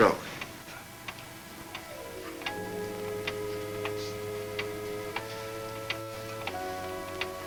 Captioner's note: clock ticks; tense music